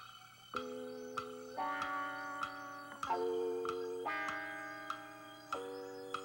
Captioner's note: clock ticking